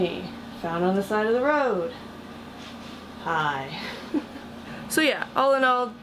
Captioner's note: giggle